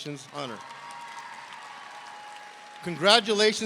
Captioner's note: audience cheering